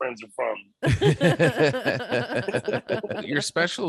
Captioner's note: laughter